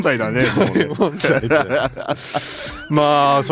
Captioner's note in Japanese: 笑い